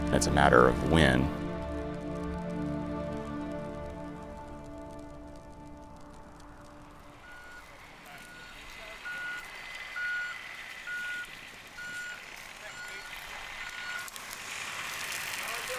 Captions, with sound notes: It's a matter of when. (beeping noise) (firefighters chatter)